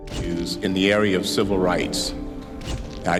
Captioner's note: shutter clicks